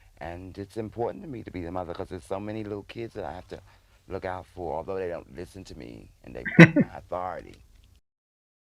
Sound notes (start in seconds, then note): 6.4 chuckling